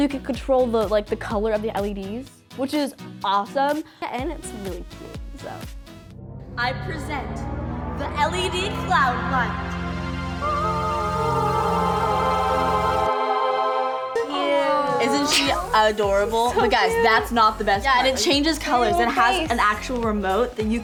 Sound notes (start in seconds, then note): 10.7 all singing angelically; 14.1 all awing